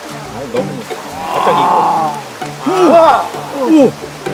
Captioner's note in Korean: 감탄